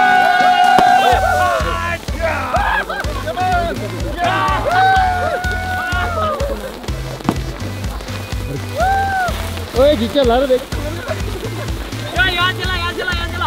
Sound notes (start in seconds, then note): 0.0 crackling sound; 0.0 cheering